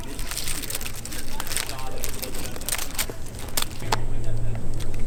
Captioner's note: tree cracking